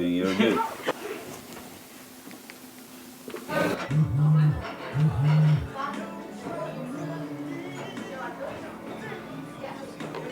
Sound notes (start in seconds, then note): 2.4 fingers tapping; 3.7 phone buzzing; 3.9 dishes clanking; 6.0 customers chattering indistinctly